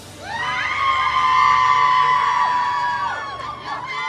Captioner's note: audience cheers